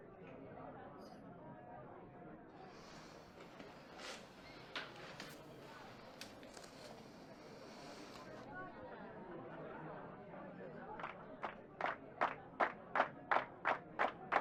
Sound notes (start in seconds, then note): 0.3 audience chattering continues; 9.1 audience chattering continues; 10.9 audience clapping